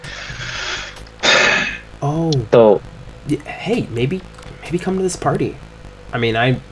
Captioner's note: sighs